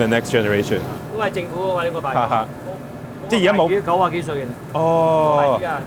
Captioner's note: both speaking in foreign language